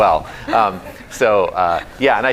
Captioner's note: laughter